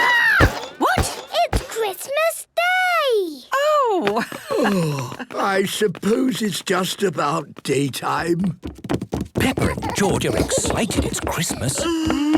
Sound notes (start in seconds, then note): 3.6 laughing